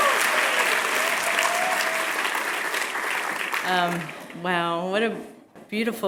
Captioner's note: applause